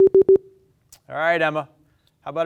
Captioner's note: beep